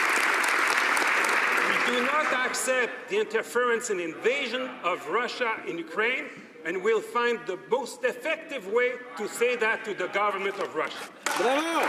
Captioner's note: some Applause